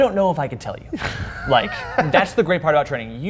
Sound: laughs

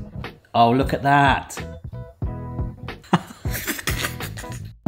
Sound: chuckling

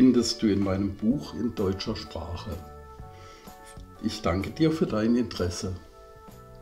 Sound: in German

